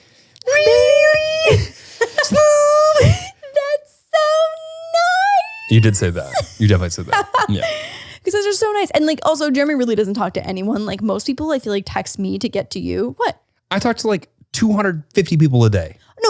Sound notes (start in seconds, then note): 3.2 laughs; 7.9 laughs